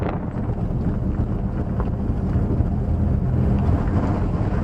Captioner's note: engine noise